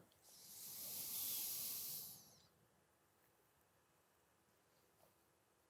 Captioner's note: silence